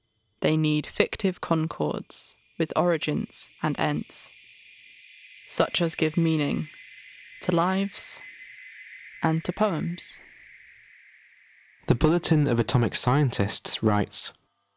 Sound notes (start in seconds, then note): 10.5 sounds fade down